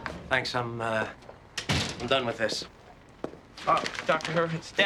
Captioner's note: none